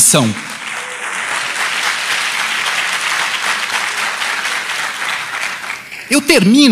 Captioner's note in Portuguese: Aplausos